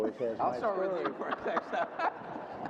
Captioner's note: group laughter